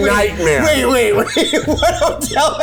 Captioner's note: laughing